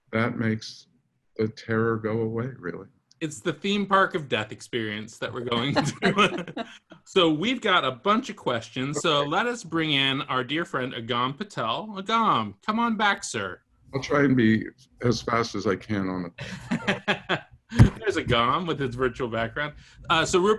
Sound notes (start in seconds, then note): 5.1 laughs